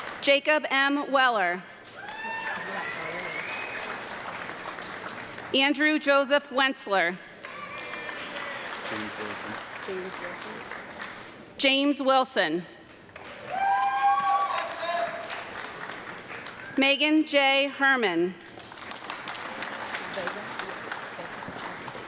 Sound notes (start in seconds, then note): 0.0 audience clapping and cheering; 1.9 audience clapping and cheering; 7.4 audience clapping; 13.1 audience clapping and yelling; 18.4 audience clapping